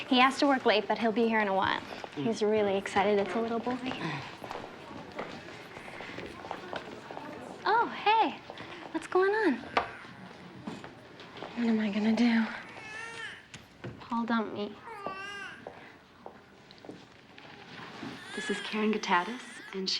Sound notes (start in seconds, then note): 14.8 baby crying